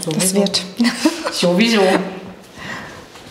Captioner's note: laughter